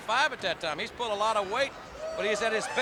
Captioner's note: crowd clamoring